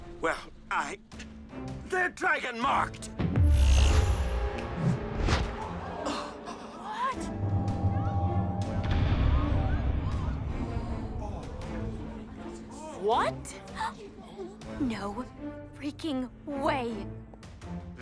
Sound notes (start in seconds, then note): 3.4 magical buzzing; 5.8 people gasps